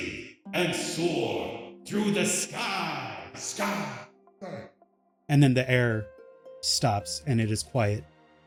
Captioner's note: echoes